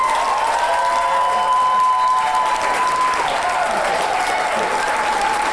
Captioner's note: clapping and cheering